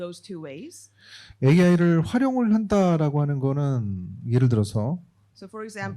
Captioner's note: speaking korean